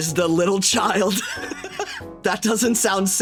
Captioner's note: laughing